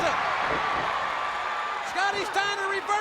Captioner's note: crowd cheering